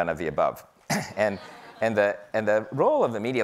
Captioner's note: audience laughing